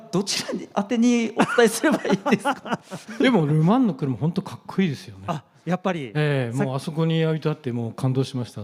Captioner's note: laughs